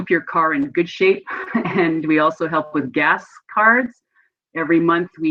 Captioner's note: laughs